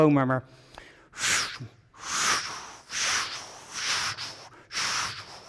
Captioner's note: vocalizing whooshing